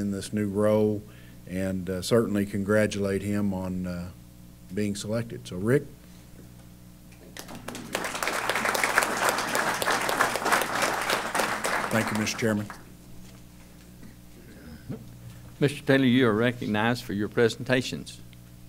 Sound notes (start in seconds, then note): 7.3 applause